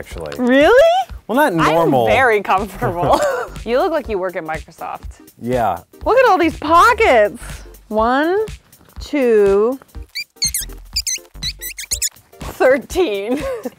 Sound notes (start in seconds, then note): 2.6 laughs; 10.0 squeaking; 13.3 laughs